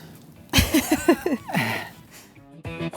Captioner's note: laughs